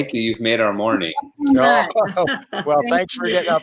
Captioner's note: laughing